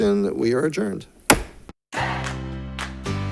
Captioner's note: gavel bangs; upbeat energetic music